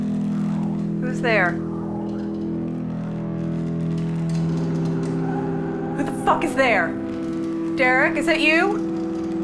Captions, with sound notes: Who's there? (ghoulish whispers) Who the fuck is there? Derek, is that you?